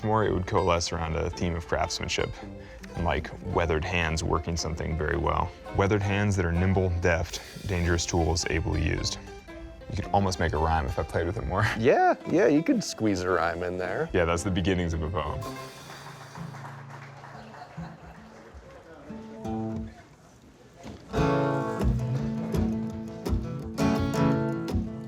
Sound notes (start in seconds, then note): 15.4 people clapping; 21.1 guitar playing